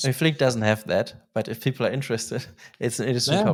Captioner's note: laughs